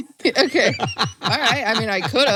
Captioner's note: laughs